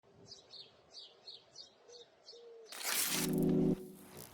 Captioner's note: birds singing distantly; paper ripping